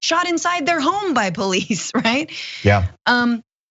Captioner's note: laugh